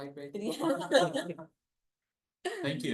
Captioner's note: laughs